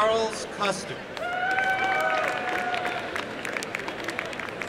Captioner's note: applause